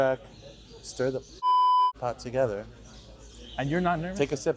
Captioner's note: beep